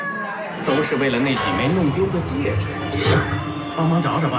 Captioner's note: speaking Chinese